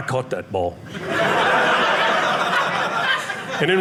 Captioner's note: audience laughing